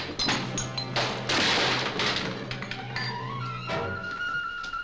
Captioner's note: clattering